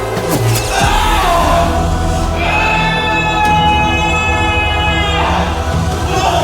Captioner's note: screams